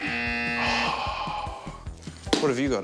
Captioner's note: buzz!; sighs